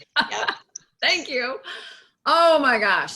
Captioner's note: laughing